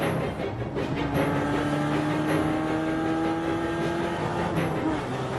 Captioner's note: engine buzzing